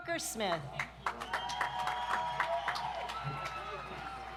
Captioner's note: audience applauds